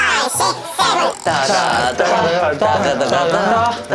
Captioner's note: stammering